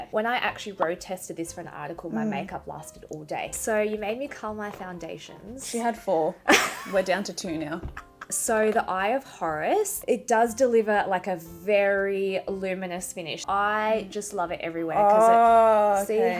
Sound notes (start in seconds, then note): 7.9 laughs